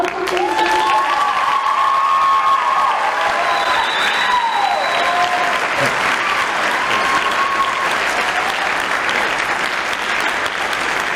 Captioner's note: applause